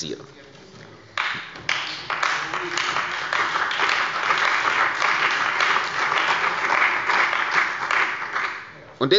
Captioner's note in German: Beifall bei der CDU und dem BÜNDNIS 90/DIE GRÜNEN